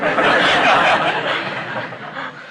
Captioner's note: laughter